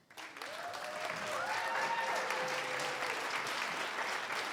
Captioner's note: applause and cheering